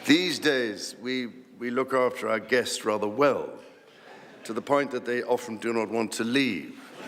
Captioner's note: laughter